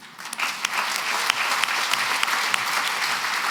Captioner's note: applause